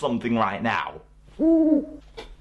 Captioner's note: hoots